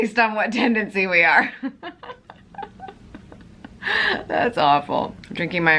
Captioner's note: laughing